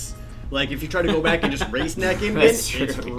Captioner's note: laughs